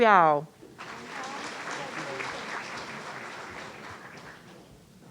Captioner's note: audience applauding